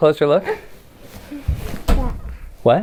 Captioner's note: speaks quietly